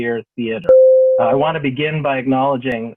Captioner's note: bell rings